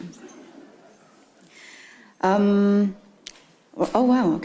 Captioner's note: attendees chuckle